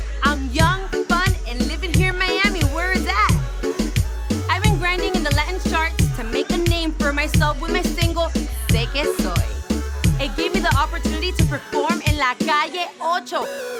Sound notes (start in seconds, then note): 8.2 speaking Spanish